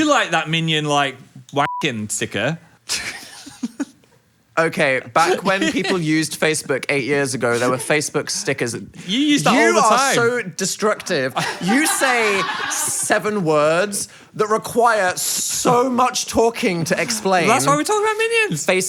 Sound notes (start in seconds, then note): 1.6 beeps; 2.9 Phil laughs